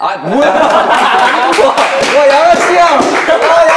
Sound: laughing

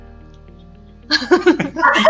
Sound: laughs

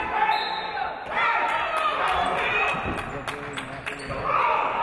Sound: referee blows whistle

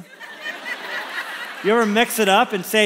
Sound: congregation laughs

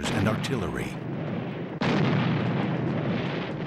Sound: war sounds

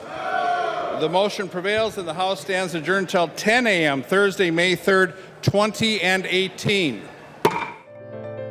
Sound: chorus of ayes

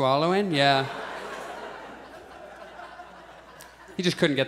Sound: audience chuckles

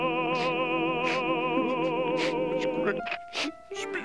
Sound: sobbing

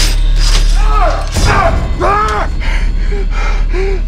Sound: shouts

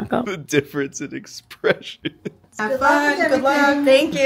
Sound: laughs

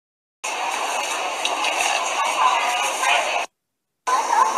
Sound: people talking in background

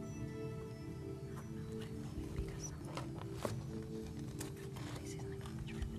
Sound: whispering

